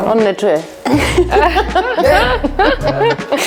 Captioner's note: laughing